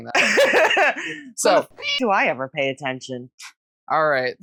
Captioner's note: meow